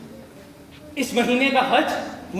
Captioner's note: in Urdu